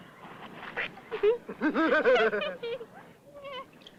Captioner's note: laughs